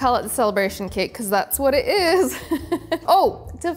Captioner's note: laughs